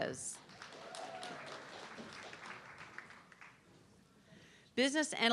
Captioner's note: audience clapping